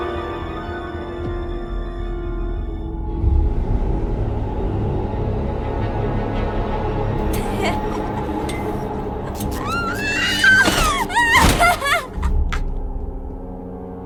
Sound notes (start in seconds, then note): 2.5 dark music plays; 7.4 cackles wildly